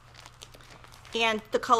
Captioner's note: plastic crinkling